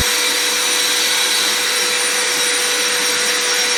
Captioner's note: loud power tool background noise